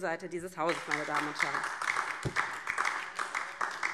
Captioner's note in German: Beifall DIE LINKE